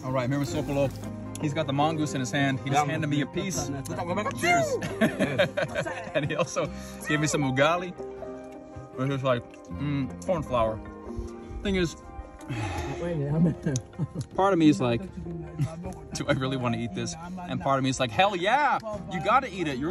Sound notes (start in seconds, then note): 4.0 speaking foreign language; 4.5 laughing